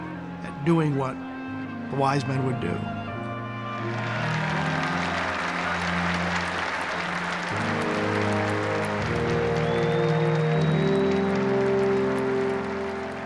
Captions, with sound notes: at doing what the Wise Men would do. (cheers and applause) (applause, cheering and whistling)